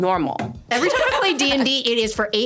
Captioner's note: laughing